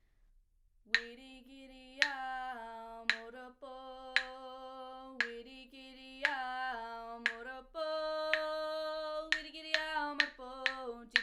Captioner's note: singing in woiwurrung